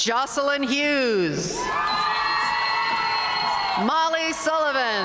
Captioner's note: audience cheering and applauding